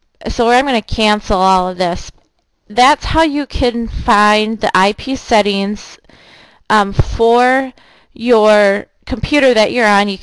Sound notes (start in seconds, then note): none